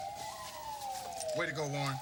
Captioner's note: police siren